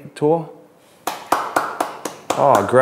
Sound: applause

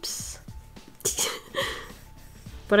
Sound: giggles

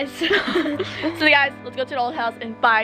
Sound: laughter

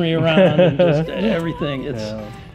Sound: laughing

